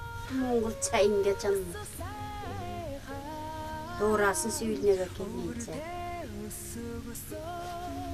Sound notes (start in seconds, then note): 0.2 speaks in Oirat